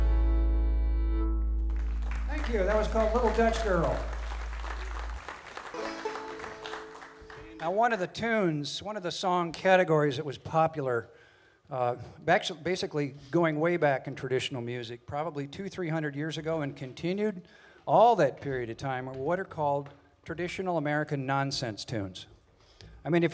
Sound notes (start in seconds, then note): 1.6 audience applauding